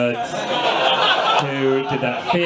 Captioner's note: audience laughs